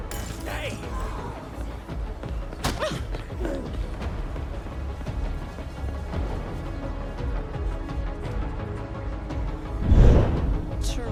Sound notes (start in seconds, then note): 0.0 glass shattering; 2.6 shoving and grunting; 4.7 suspenseful music